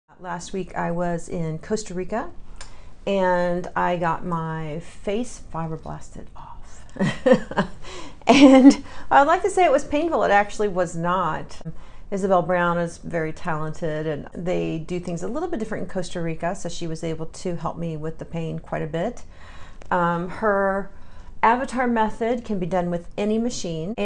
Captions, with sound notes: Last week I was in Costa Rica, and I got my face fibroblasted off (laughs), and, I'd like to say it was painful, it actually was not. Isabel Brown is very talented, and they do things a little bit different in Costa Rica, so she was able to help me with the pain quite a bit. Her Avatar method can be done with any machine,